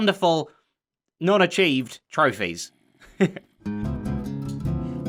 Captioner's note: chuckles